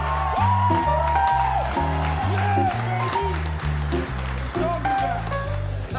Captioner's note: cheering